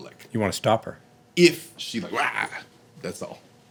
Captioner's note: growls